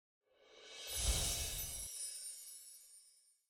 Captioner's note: chimes ringing